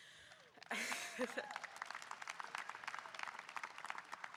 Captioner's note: audience applauding